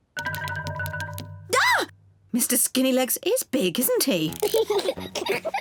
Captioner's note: screams; peppa pig and george laugh